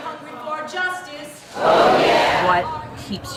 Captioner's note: crowd Yells